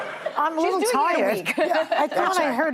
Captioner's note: laughter